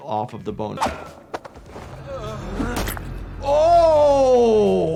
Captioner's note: characters groan, fists slam